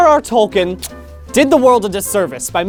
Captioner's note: kiss